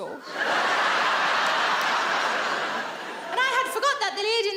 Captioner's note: audience laughs